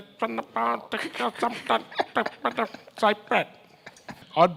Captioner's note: makes syncopated nasal noises; everyone chuckles